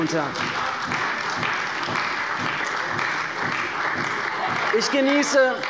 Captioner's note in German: Beifall bei Abgeordneten der CDU